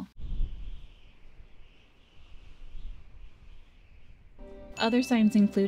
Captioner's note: arctic rushing wind